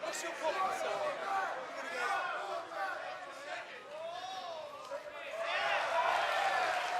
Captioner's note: fans chanting; cheers and applause